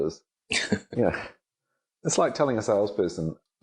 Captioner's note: laughing